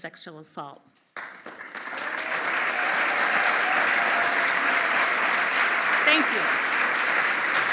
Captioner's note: applause